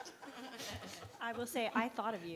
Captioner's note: all laugh